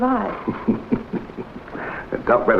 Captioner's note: Dr Forbes chuckles